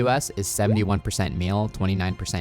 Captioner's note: graphics popping